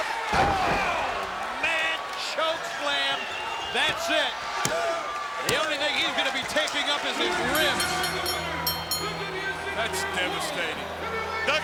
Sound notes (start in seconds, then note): 0.9 Duggan thudding; 5.4 hand thudding